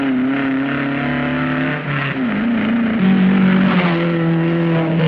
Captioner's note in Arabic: صوت المحرك